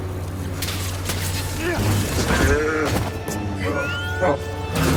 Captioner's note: character grunting